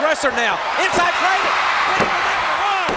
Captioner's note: crowd cheers